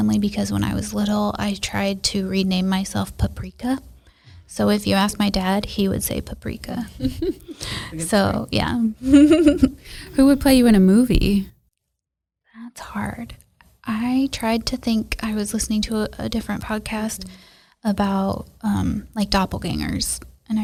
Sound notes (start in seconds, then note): 6.8 laughs